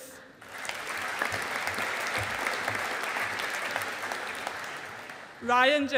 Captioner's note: audience applauding